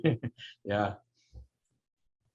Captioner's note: laughs